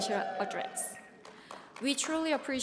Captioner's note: audience cheers